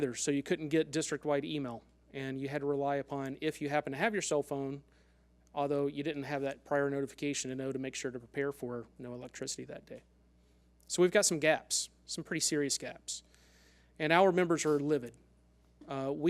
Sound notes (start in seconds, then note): none